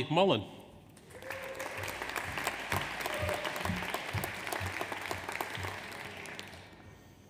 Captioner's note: audience applauds; audience cheers